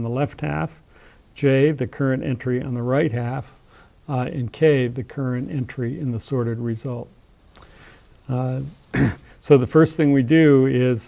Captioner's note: cough